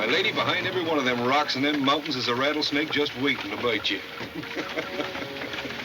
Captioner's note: laughs